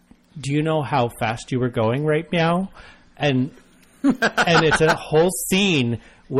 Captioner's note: laughs